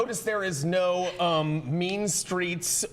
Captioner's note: laughter